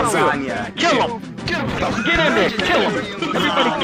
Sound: chaotic chat

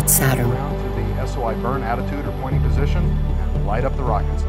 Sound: mission audio

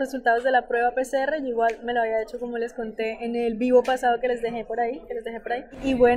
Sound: Spanish

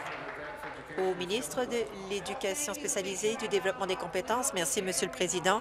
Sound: applause

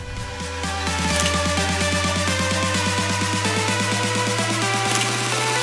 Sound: camera beeps and clicks; camera beeps and clicks

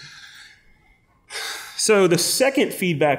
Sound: sigh

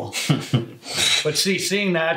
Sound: chuckles

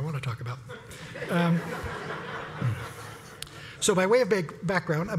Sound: laugh

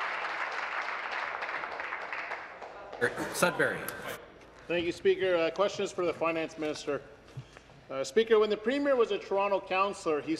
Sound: applause

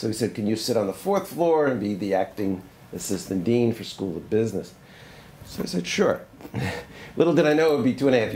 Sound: laughs

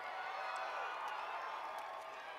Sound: applause

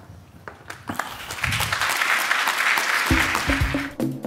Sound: applause

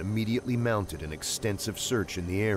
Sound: voiceover

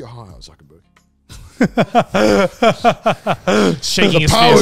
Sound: all laughing

